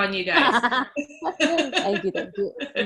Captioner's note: laugh